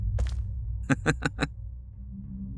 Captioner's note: chuckles